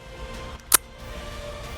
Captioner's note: gunshot